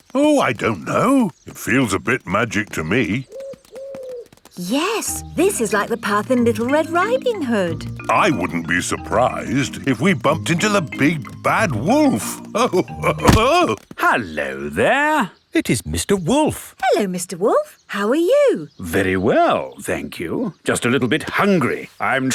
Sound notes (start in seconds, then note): 3.7 owl hooting; 12.3 chuckles